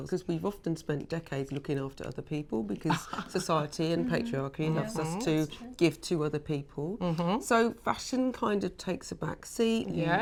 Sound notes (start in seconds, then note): 2.3 chuckles